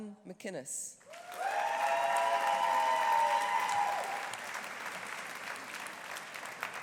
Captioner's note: audience applauding; audience cheering